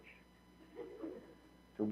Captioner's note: audience Chuckles